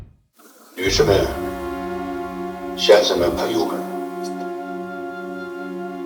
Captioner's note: speaking in foreign language